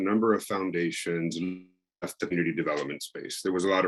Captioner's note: audio breaking